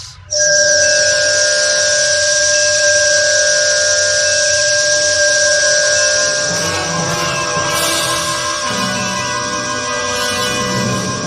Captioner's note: strong and very loud screeching noise